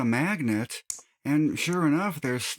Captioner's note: click